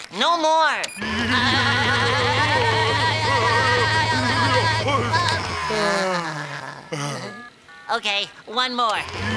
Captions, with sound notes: No more! [screaming] [sighing] Okay, one more.